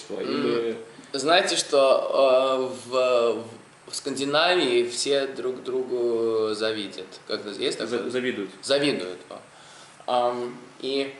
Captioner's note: mispronounces the word